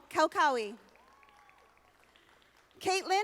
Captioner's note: audience applauding